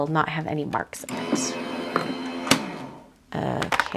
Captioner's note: machine whirs